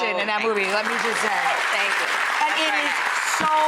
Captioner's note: audience applauding